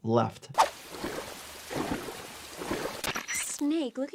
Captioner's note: water splashes